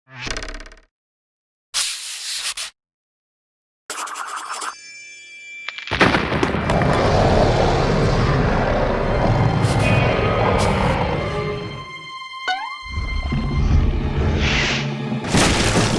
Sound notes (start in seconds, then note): 6.7 roars